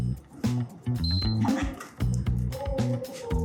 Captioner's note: whistle